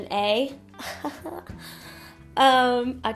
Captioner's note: chuckles